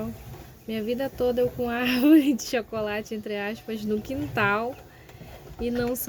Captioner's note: laughs